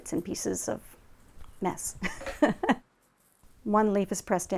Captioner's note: laughs